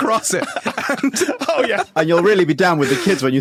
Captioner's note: both laugh